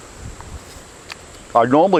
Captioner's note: chili crunches